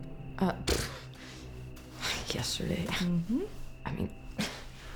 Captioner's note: scoffs